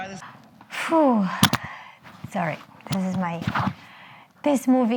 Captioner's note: exhales